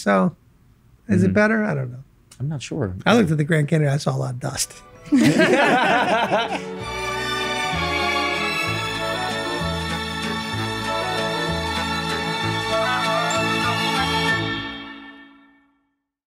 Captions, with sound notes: So, is it better? I don't know. - I'm not sure. - I looked at the Grand Canyon and I saw a lot of dust. (all laugh) (calm music)